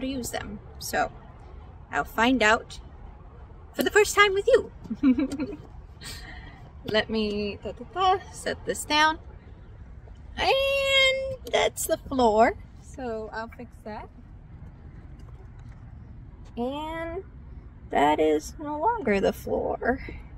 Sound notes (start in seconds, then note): 4.8 laughs